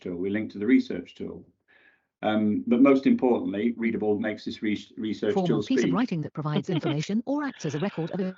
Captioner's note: computer speaks